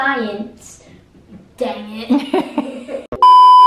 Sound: laughing

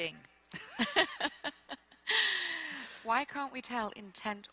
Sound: both laughing

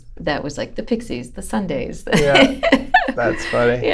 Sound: laughter

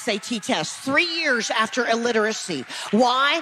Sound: audience applause

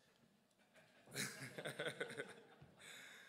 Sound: laughs

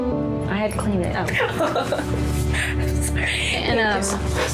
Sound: laughs

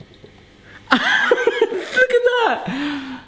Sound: laughing excitedly

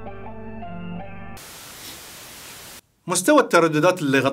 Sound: distortion

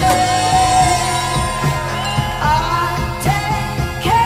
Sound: cheering

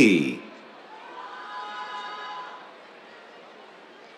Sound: cheers

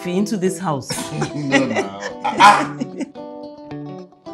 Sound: Mrs Badru laughs

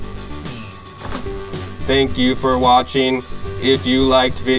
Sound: robot voice

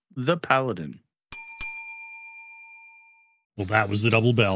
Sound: bell dings

